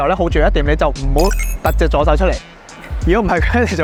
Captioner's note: laughs